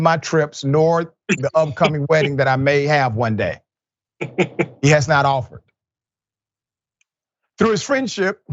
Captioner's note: laugh